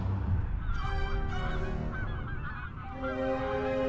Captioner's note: geese squawking; dramatic music